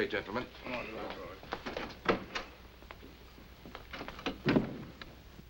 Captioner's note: men chattering